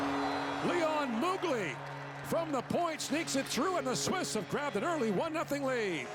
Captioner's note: horn